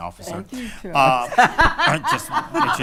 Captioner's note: laughing